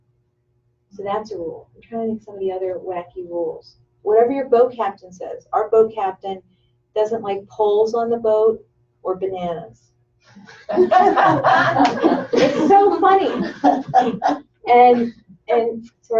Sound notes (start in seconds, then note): 10.5 laughter